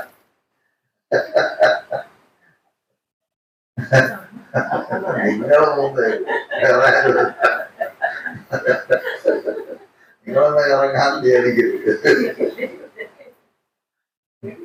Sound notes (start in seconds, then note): 12.8 laughing